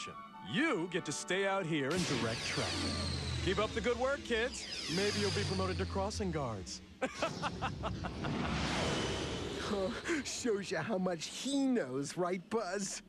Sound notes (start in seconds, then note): 7.0 crocket laughs